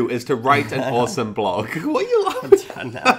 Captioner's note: laughs